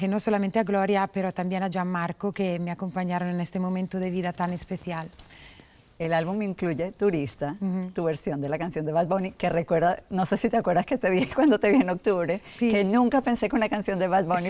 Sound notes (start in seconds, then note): 11.4 laughs